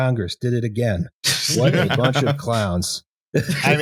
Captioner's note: laughter